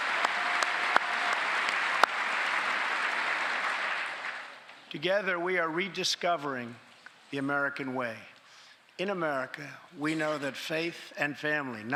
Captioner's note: cheers and applause; applause